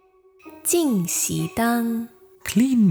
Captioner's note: Mandarin